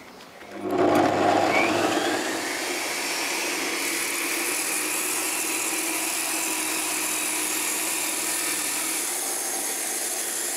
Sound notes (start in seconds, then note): 0.6 high-pitched mechanical whirring